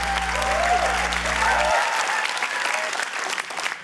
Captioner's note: cheering, applause